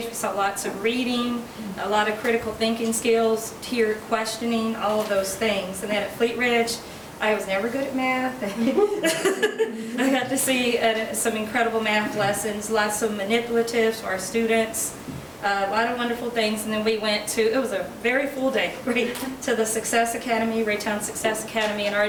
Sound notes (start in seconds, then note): 8.5 laughing